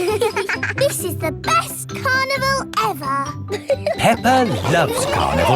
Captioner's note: both giggling